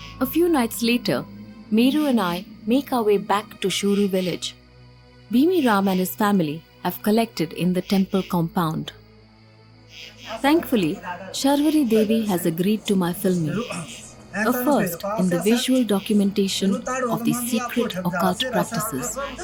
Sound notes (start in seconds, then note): 9.0 cricket chirping